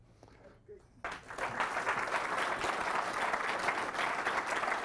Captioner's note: applause